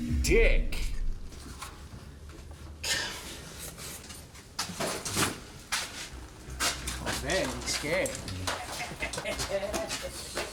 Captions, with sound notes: Dick. Dios. - Oh, hombre, que estaba asustada. (risas)